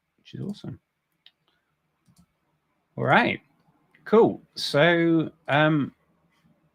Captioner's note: none